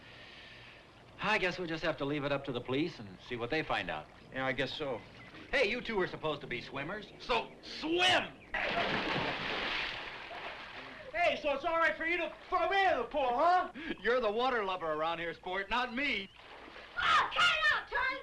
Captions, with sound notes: I guess we'll just have to leave it up to the police and see what they find out. - Yeah, I guess so. - Hey, you two are supposed to be swimmers, so swim! (water splashes) - Hey, so it's all right for you to throw me in the pool, huh? - You're the water lover around here, sport, not me. - Oh, cut it out, Tarzan!